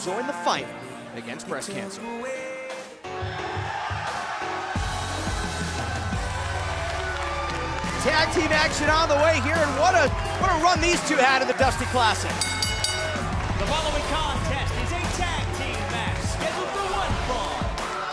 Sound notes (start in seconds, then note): 4.9 crowd cheering; 12.2 bell ringing